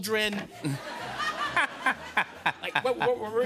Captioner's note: laughter